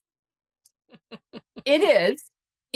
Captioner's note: laughs